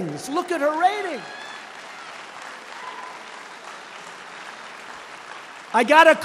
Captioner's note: applause